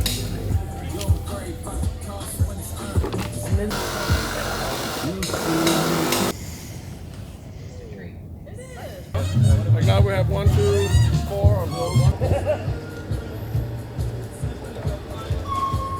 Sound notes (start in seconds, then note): 4.2 construction noise